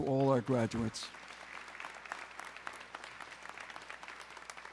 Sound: audience clapping

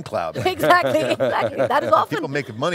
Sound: laughing

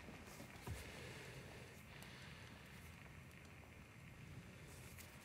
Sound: breathing heavily

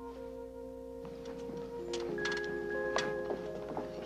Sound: siren wailing

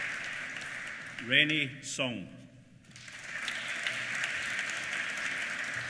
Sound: applause

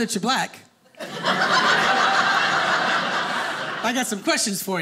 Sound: audience laughing

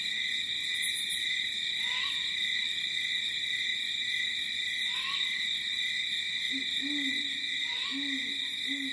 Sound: light jungle ambience

